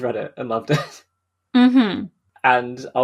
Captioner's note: laughs